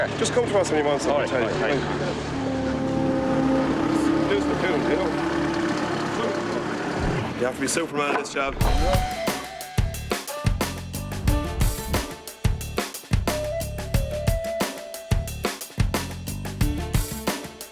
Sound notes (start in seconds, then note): 4.3 construction drowns out speaker; 8.6 upbeat music playing